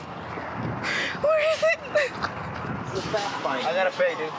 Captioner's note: sobbing